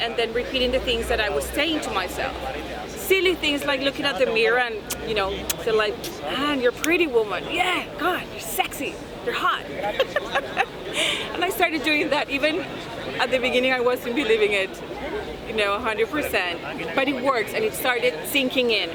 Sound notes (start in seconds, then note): 4.8 kiss; 9.8 laughs